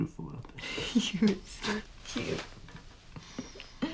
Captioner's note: chuckling